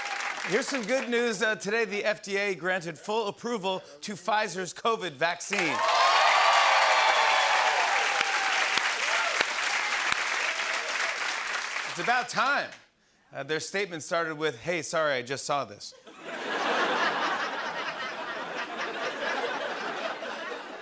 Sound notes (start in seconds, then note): 5.5 cheering and applause; 16.0 laughter